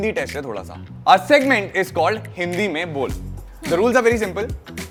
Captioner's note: speak in Hindi